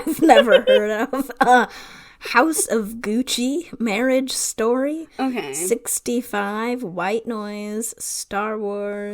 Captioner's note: laughs